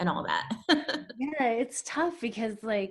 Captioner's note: laughs